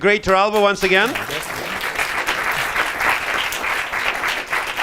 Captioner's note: applause